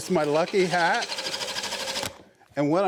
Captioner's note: machine revving